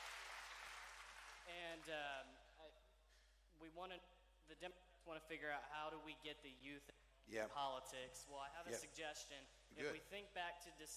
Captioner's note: cheering